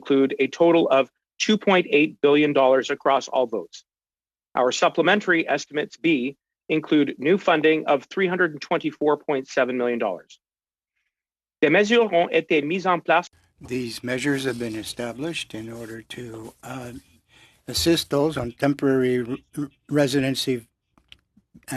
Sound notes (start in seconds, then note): 15.5 speaking French